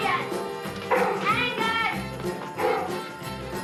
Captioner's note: barking